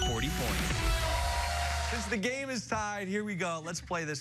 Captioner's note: cheers and applause